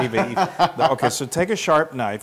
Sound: laugh

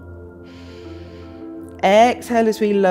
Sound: inhales

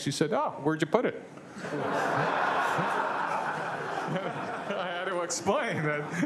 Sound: laughing

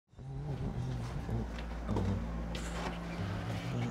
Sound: humming

